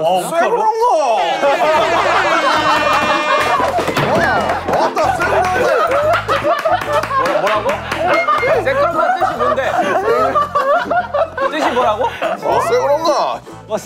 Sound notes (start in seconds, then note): 1.3 rolling on the floor laughing